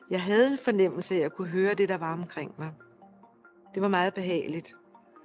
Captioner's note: woman speaks foreign language